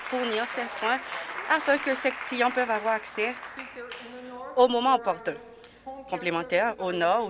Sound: applause

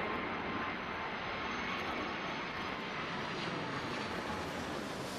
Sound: plane engine roaring

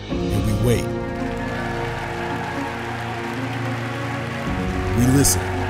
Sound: audience applauding and cheering

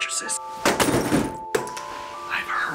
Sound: tv crashes to floor

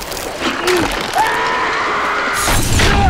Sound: screams

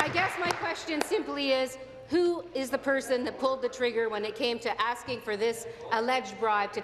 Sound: applause

